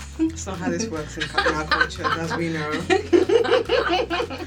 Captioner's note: laughter